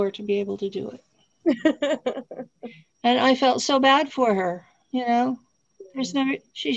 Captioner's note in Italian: Risate